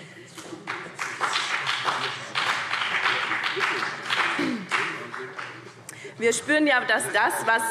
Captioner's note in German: Beifall BÜNDNIS 90/DIE GRÜNEN und vereinzelt CDU